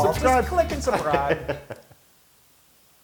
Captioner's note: laugh